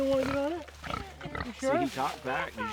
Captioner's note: pig grunts